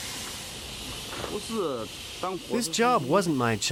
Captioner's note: speaking in foreign language